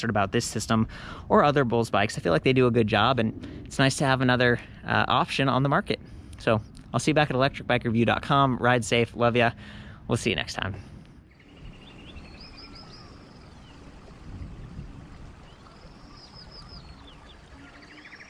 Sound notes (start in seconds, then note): 11.7 birds chirping